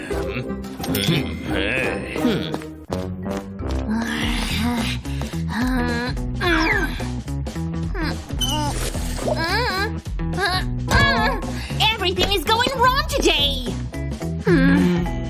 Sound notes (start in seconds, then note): 0.9 groans; 3.7 grumbles